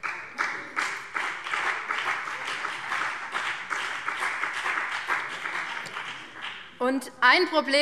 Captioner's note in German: Beifall BÜNDNIS 90/DIE GRÜNEN